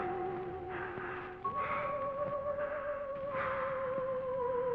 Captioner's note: Phantom heavy breathing